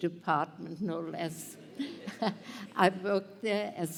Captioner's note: laughter